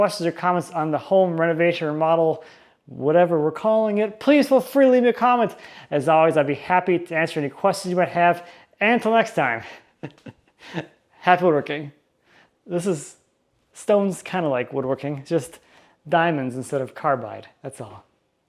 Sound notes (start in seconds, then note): 9.6 chuckles